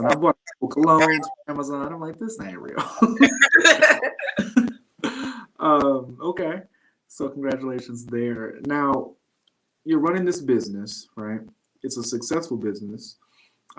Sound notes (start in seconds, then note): 2.8 laughter